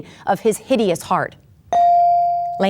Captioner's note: bell dings